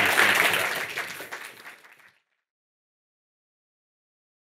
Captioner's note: audience claps